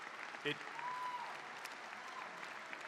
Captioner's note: applause